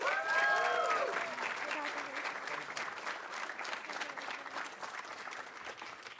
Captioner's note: audience cheering; audience applauding